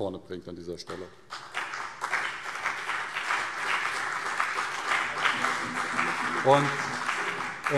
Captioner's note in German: Beifall CDU und BÜNDNIS 90/DIE GRÜNEN